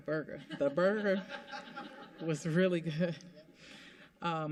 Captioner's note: laughter